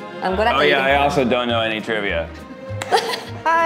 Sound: claps and laughs

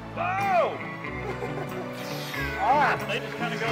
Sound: laughing

